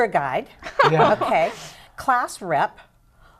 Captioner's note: laughter